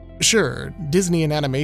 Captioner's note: none